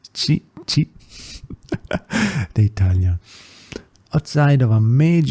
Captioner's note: laughs